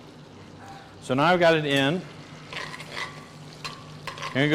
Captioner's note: skillet sizzling